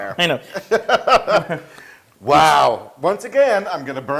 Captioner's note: laugh